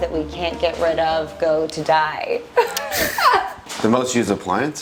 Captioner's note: laughs